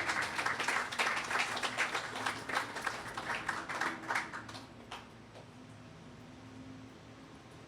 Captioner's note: applause